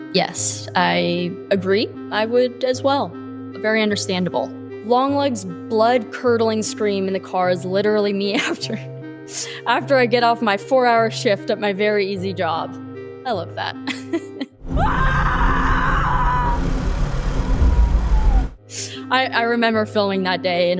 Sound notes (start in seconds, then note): 14.6 screaming